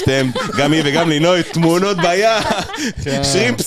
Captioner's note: laughter